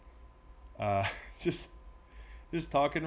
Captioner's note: laugh